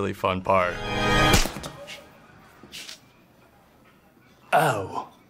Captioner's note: dramatic music; hand slapping